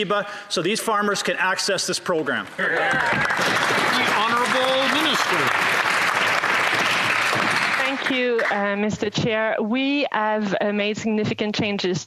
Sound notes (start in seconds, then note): 8.4 applause